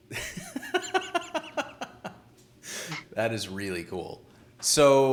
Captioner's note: laughing